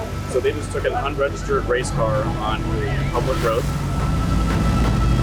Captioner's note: car engine revving